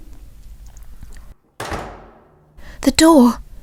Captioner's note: door slam